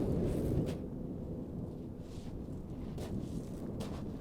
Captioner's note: wind rustling